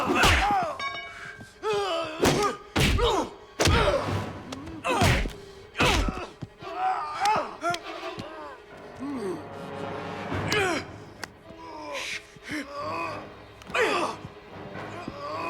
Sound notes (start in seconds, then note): 0.1 tense music continues; 2.5 Knox and Dalton grunting; 3.5 blows thudding; 10.5 Dalton grunts; 12.6 both grunting